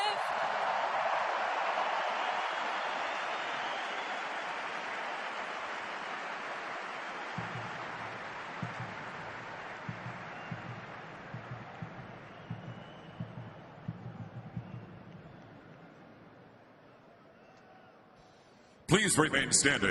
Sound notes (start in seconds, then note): 0.8 applause